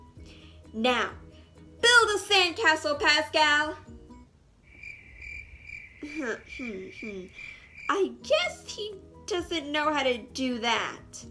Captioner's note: crickets